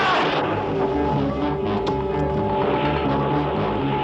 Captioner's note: shouting